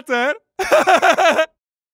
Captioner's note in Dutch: Lacht om eigen woordgrap